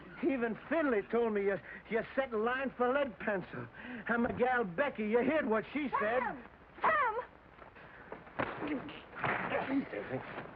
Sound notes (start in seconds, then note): 8.3 smack